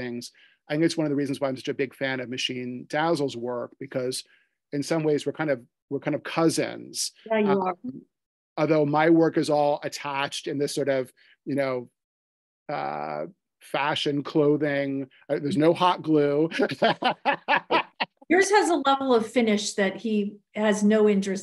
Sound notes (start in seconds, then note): 16.4 laughs